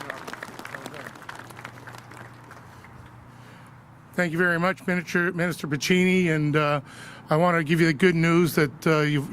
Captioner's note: applause